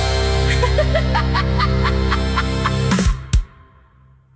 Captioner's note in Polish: śmiech